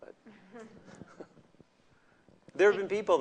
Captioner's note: laughter